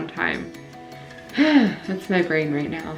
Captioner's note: sighs